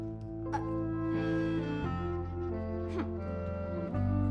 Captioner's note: words catch, sighs